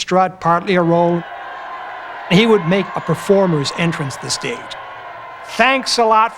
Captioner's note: crowd Cheering